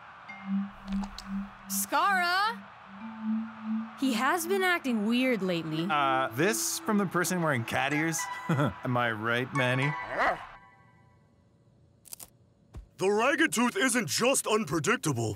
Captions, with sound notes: Skarra! He has been acting weird lately. - Uh, this from the person wearing cat ears? (chuckling) Am I right, Manny? (barking) - The Ragged Tooth isn't just unpredictable...